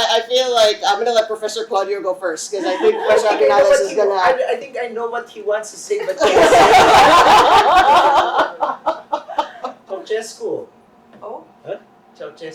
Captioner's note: laughter